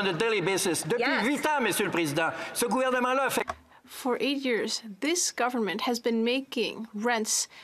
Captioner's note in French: voix de l'interprète